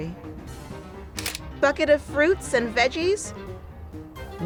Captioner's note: camera clicks